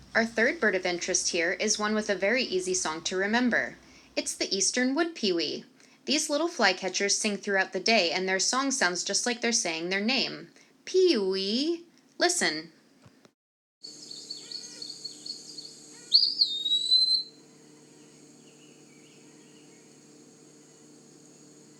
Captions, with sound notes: Our third bird of interest here is one with a very easy song to remember. It’s the Eastern Wood-peewee! These little flycatchers sing throughout the day and their song sounds just like they’re saying their name, “Peewee!” Listen... [Eastern Wood-pewee singing] [short pause]